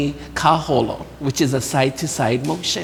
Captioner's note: speaking in foreign language